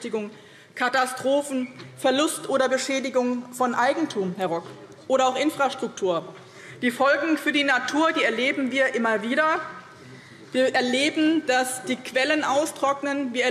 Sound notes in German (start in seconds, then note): none